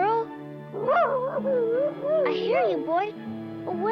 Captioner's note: Arrow whining